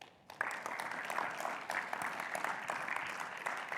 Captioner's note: audience clapping